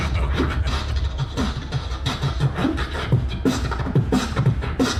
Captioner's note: man beatboxing